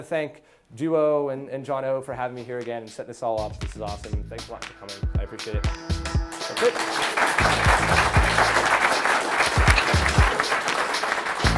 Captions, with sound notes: Just wanted to thank Duo, and John O for having me here again, to set this all up. This is awesome. Thanks for letting me come in. I appreciate it. (applauding) (slow techno music)